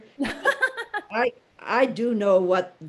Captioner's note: Judy laughing